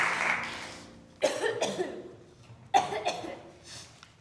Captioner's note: cough cough